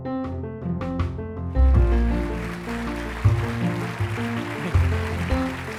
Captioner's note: applause and music playing